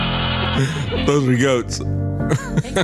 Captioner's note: laughs